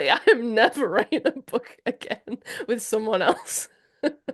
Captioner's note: laughing